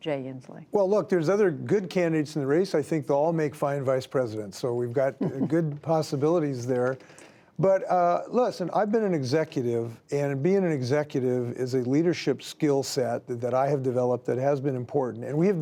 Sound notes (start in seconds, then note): 5.1 laughter